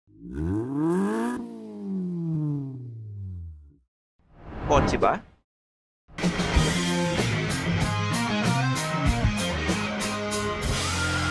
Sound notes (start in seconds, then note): 0.1 engine revs